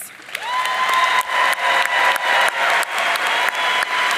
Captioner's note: audience cheering